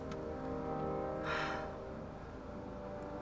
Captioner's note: sighs